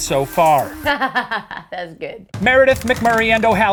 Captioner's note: laughs